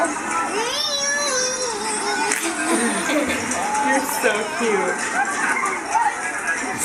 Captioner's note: happy baby babbling